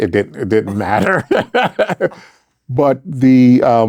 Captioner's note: laughing